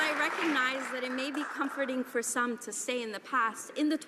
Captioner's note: some Applause